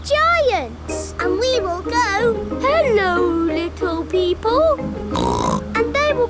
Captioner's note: snorts